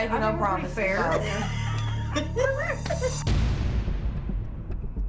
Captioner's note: women laughing